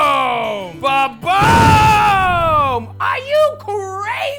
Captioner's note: explosion